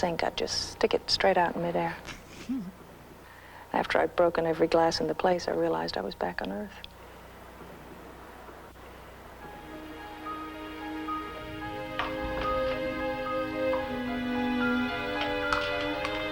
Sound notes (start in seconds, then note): 2.1 Danny chuckles; 9.4 gentle orchestral music